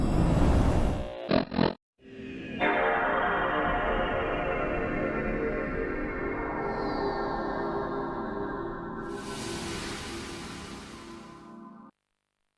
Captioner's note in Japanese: crtテレビの音が鳴り、その後ps2の起動画面が現れる